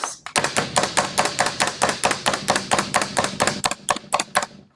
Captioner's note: chopper slamming